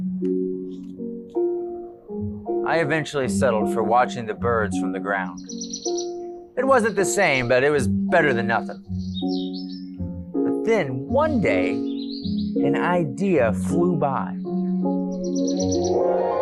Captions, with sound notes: I eventually settled for watching the birds from the ground. [bird chirping] It wasn't the same but it was better than nothing. But then one day, an idea flew by.